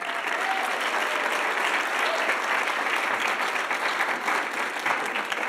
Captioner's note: audience applauding and cheering